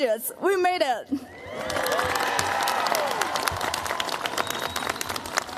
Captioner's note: cheers, applause